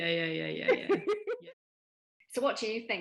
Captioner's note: laughs